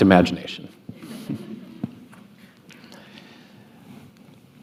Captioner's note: laughter